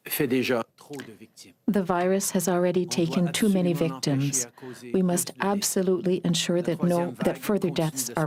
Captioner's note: speaking french